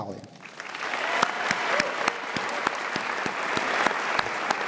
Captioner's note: audience applause